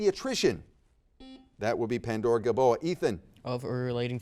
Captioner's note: buzzer dings